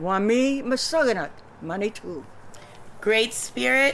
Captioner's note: non-english speech